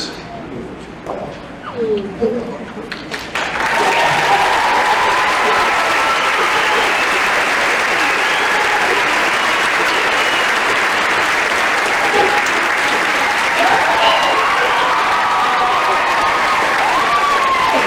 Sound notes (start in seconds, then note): 3.0 cheering and applause